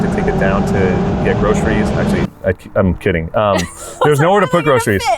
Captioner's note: laughs